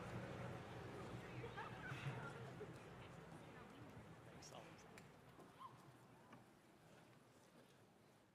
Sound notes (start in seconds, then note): 1.2 attendees chatting softly